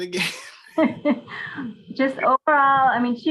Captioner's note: laughing